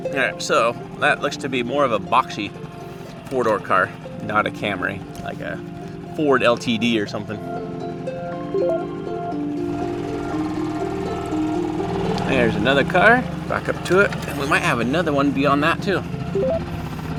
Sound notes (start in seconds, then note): 9.5 bell chimes